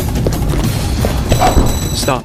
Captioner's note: phone rings